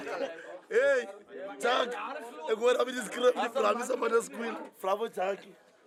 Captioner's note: laughter; speaking in afrikaans